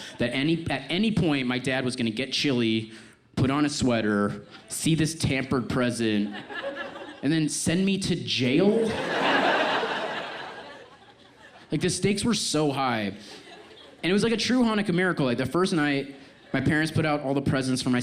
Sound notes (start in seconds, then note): 8.7 audience laughs